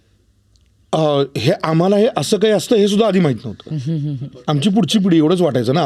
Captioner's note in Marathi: हास्य